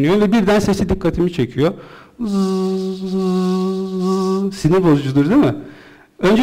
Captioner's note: buzz...buzz